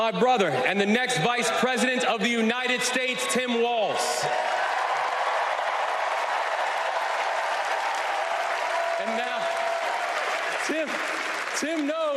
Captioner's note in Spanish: Aplausos